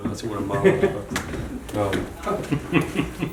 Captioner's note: laughing